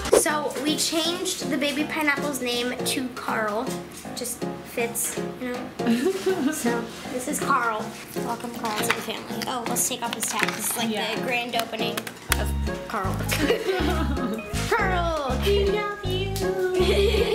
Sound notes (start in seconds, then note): 13.3 laughs